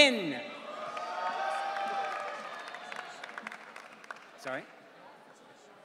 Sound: audience cheering

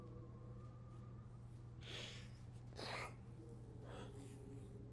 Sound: sniffle

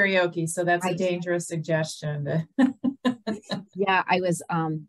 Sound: laughs

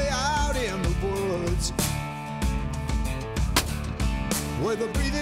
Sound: gunshot

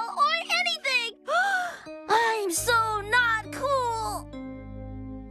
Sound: gasp!

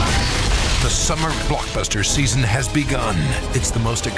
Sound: voiceover

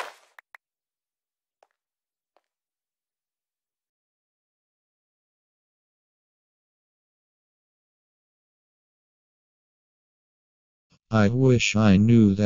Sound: footsteps

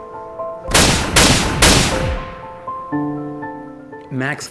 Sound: gunfire blasting

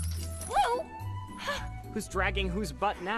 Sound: sigh

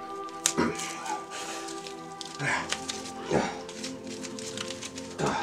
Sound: grunts

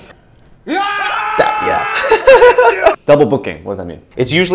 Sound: staff screaming

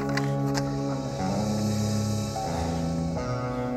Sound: crowd gasping; squib panting

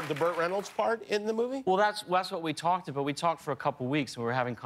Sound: cheers and applause

